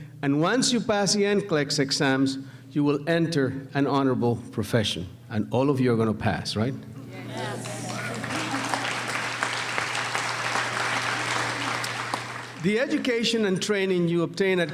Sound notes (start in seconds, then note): 9.5 applauding